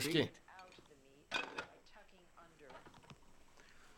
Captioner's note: bottle clinks